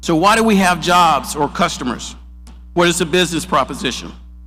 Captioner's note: none